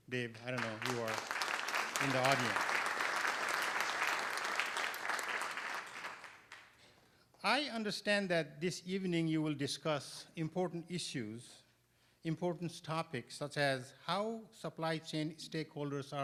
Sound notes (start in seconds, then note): 3.8 applause